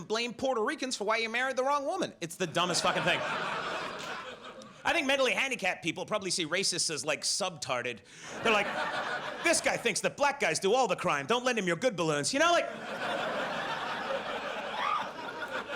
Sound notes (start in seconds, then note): 2.5 audience laughs; 8.3 audience laughs; 12.6 audience laughs